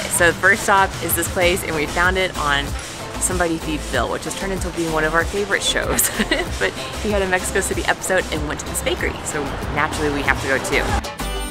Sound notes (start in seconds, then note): 5.9 laughs